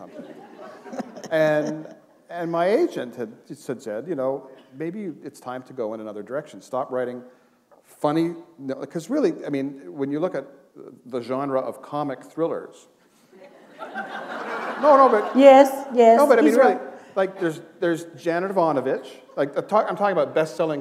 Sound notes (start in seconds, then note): 13.4 laughter